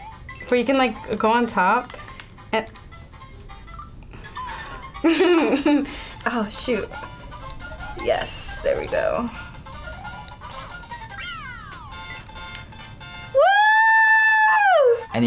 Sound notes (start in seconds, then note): 4.9 laughs